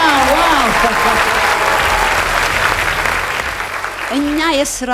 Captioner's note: applause